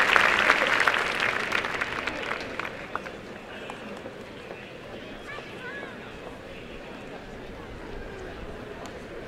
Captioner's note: applause and cheering; crowd murmurs